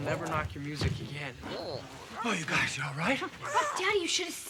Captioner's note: Tasha coos